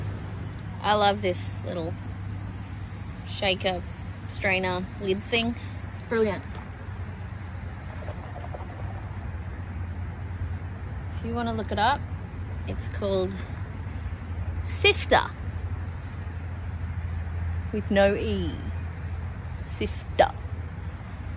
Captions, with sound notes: I love this little shaker, strainer, lid thing. It's brilliant. [chickpeas swish and rattle in tin with water] If you want to look it up, it's called Siftr, with no 'e'. Siff-TA!